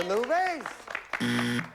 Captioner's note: buzzer